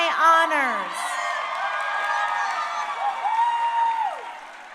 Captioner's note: crowd cheering